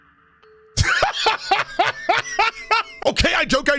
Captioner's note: laughing